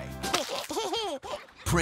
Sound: baby giggling

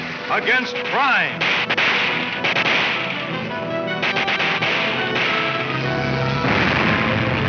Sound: dramatic music; guns fire

